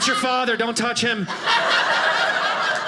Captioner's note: audience laughing